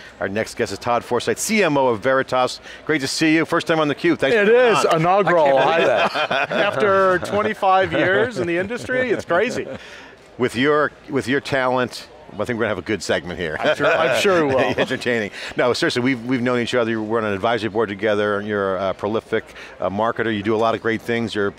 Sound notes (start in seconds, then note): 5.2 laughs